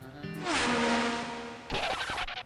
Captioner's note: whoosh